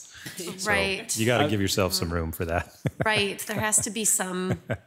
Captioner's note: laughs